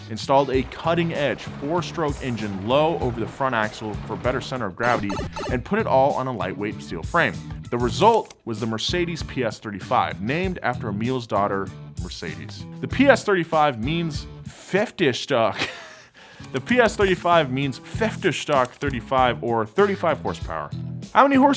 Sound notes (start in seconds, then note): 15.6 laughs